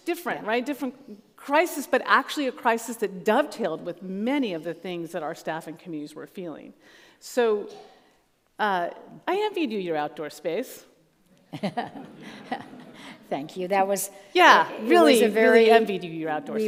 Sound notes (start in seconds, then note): 11.5 all laugh